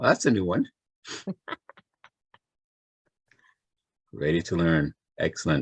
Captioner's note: laughs